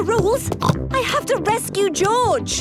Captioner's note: snorts